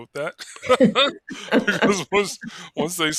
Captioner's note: both laughing